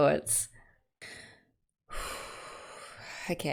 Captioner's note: deep breath